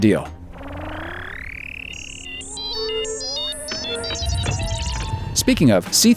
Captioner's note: beep beep beep